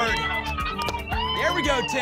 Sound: applause and cheering

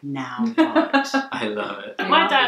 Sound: laughing

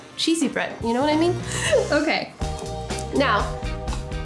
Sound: laughing

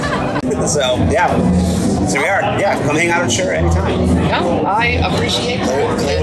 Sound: laughter

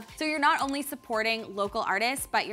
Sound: mouse clicking

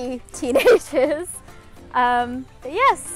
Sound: laughs

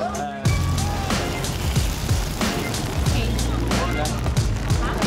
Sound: speaking foreign language; sizzling

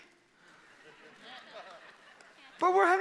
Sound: congregation laughing

